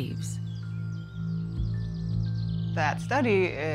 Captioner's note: wildlife chittering